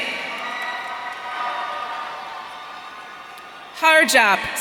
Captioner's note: audience cheering